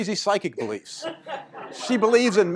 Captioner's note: laughter